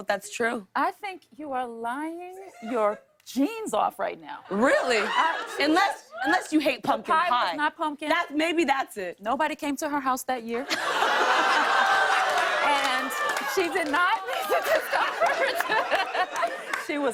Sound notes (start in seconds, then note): 10.6 laughter; 11.0 audience "Ohs"